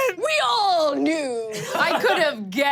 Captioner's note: laughs